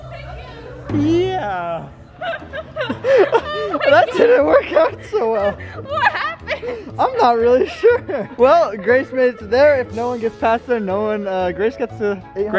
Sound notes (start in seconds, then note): 2.1 laughing